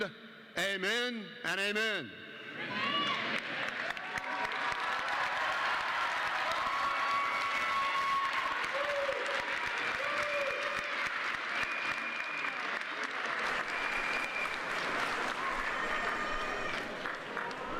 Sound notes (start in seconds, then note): 5.5 applause; 6.0 cheers and applause